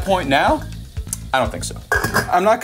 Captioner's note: pan clatters